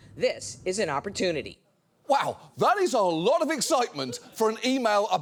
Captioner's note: none